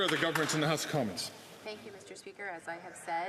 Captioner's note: some Applause